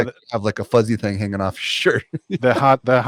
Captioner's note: laughs